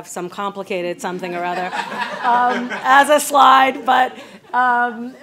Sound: audience laughs

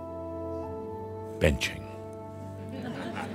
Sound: more chuckles

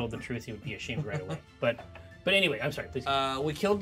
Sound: speaker chuckles

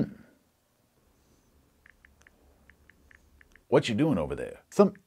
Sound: phone clicking

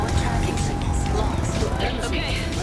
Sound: radio chatters

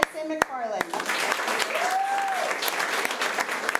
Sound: applause

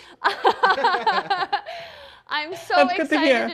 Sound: chuckles

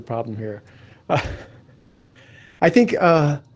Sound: laughing

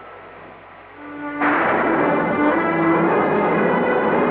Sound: thunder Rumbling

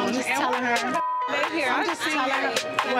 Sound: beep

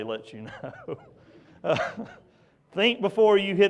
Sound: laughs

